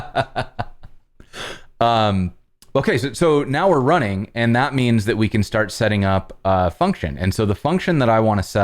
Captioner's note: laughter